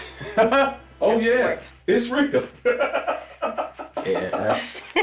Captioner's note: laughs